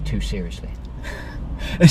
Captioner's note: laughs